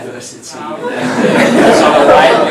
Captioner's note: laughter